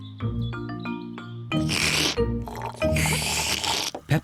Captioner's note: both slurping